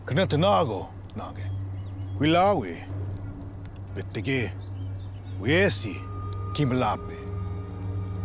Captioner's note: speaking shawnee